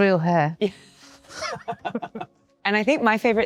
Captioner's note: both laughing